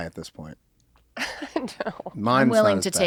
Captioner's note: laughing